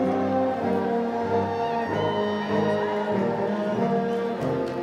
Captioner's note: lively instrumental music continues; crowd cheering